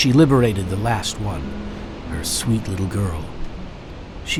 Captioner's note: voiceover